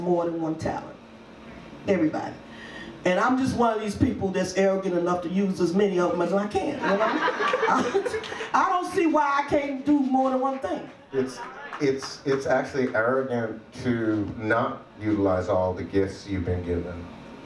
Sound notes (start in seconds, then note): 6.8 audience laughs; 6.8 laughs